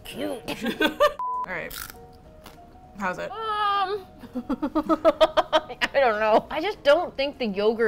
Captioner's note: laughs; both laugh